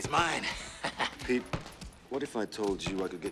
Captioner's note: Pete laughs